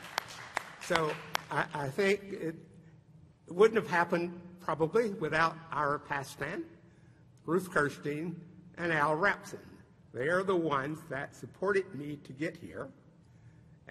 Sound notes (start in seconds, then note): 2.6 applause